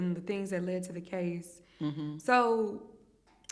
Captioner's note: hums in agreement